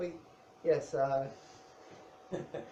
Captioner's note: laughs